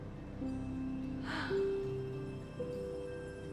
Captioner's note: sighing